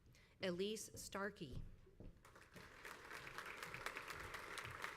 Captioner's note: crowd applauds